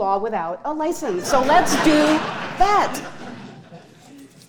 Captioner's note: audience laughing